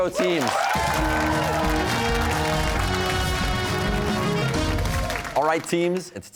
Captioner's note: cheers and applause